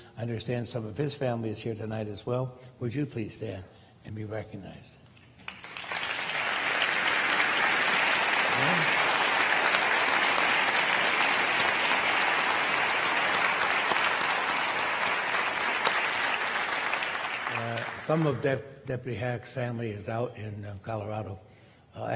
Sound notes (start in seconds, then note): 6.2 crowd applaulding